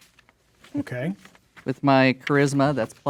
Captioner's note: pages rustling